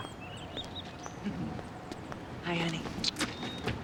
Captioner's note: laughs